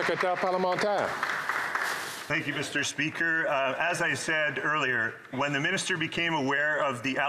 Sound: applause

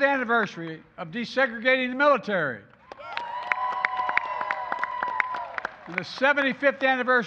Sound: applause

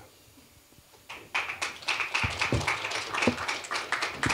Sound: applause

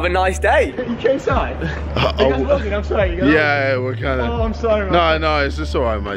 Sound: team mumbling

